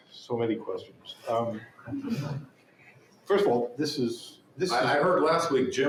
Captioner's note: chuckles